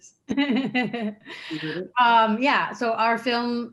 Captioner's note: laughing